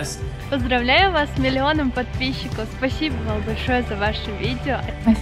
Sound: in foreign language

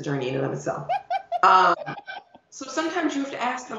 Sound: laughing

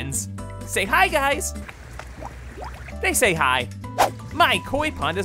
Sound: water bubbling

